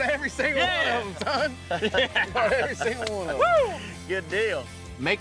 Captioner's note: happy laughter